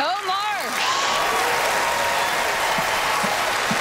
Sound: applause

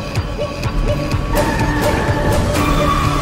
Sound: vehicle Screeching

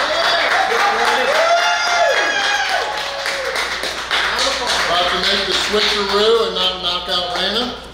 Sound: clapping & Cheering

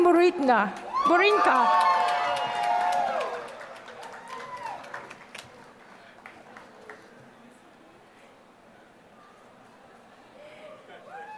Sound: applause

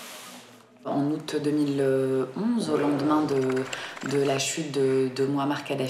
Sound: speaking in a foreign language

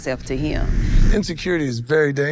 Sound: wind whooshes

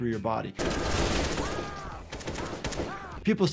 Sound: gun firing; character screaming

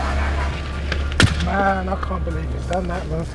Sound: explosion

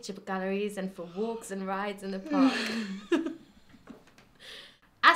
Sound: yawns

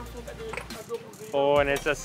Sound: speaking in foreign language

